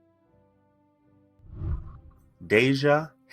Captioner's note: whooshing